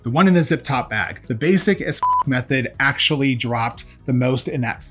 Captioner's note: beep